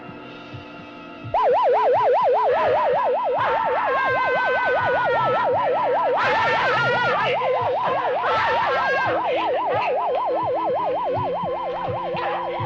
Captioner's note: whimpering